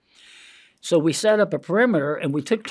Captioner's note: inhales